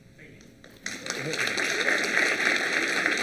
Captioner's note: applause